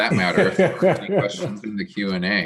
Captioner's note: laughing